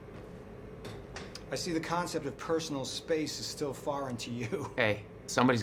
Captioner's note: laughs